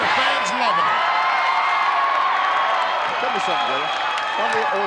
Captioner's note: audience cheering